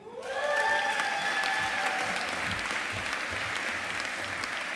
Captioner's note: audience applauding